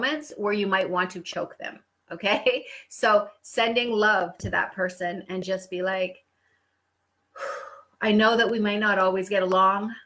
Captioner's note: deep Breath